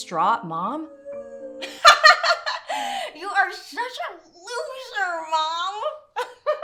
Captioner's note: laughing